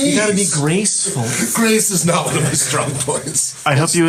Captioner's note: laughing